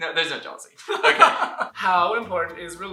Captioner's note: laughter